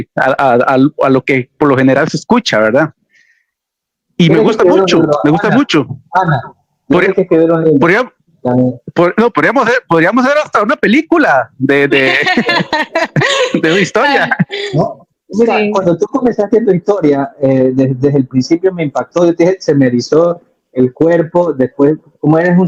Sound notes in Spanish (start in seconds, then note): 11.9 risas